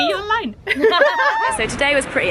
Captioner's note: laughter